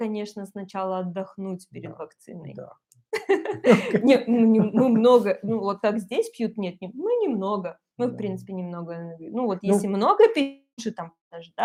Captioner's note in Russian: смеются